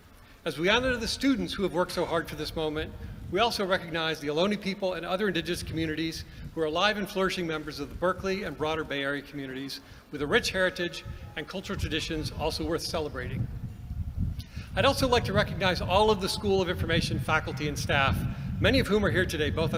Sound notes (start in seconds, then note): none